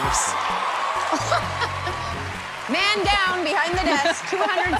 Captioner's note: laughs